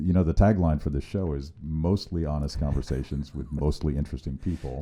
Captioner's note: laughing